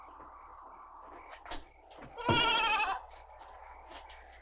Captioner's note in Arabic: تغريد الحشرات; هبوب الرياح